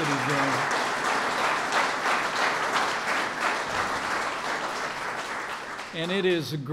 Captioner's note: applause